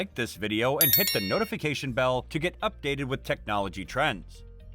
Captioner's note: with a bell sound